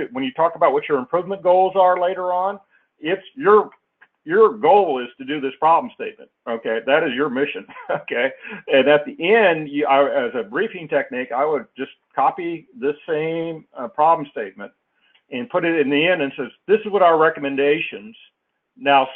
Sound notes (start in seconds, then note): 7.6 laugh